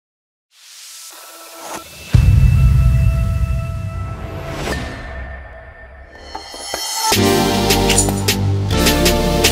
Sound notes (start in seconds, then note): 1.7 air whooshing; 6.1 upbeat music